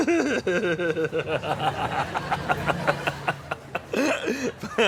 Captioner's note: laughing